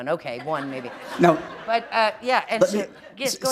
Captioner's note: laughter